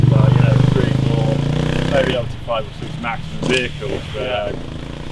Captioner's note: loud bike engine; indistinct chatter; loud bike engine